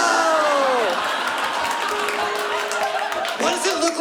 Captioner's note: laughter